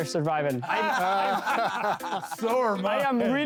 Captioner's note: laughter